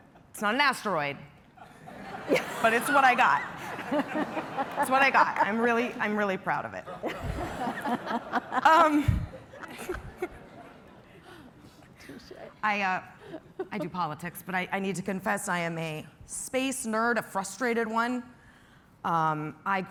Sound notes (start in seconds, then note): 6.8 laughter